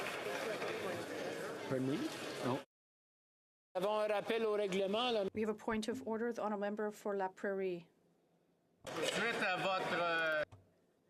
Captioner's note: applause